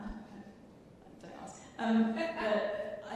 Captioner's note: chuckling